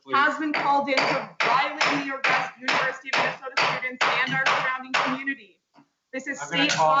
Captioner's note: woman talking over the sound of the gavel